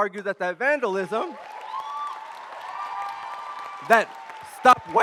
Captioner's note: audience cheers and applauds